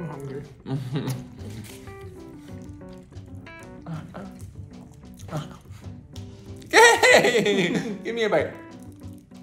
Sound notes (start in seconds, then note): 0.2 chuckling; 4.2 grunting